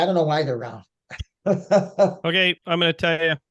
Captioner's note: laughing